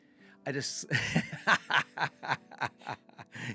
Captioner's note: laughs